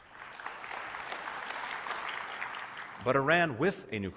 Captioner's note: applause